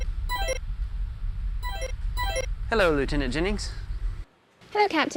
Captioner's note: electronic sounds